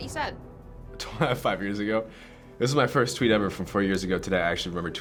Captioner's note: chuckles